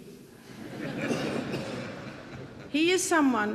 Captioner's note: audience laughing